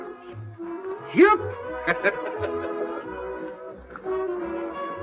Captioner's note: laughing